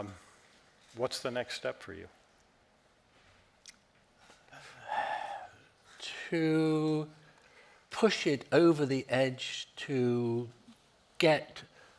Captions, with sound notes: What's the next step for you? (Norman sighing) - To push it over the edge to get a bigger momentum